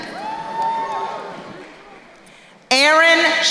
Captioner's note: crowd cheering